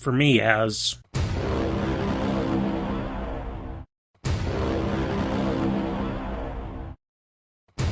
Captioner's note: Inception Horn